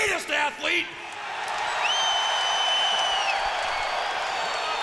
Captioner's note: crowd cheering